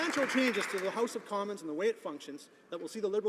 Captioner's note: some Applause